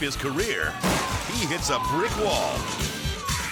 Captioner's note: bike crashes